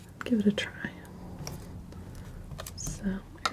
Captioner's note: scratching